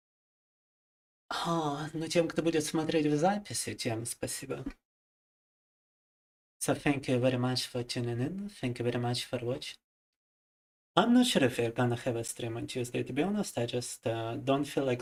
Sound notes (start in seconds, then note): 2.6 speaking in foreign language